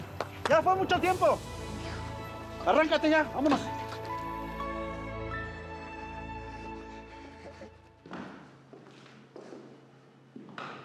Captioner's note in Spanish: palmadas